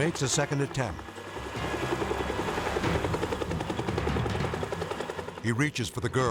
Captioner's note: helicopter whirring